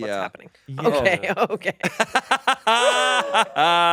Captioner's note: laughs; laughing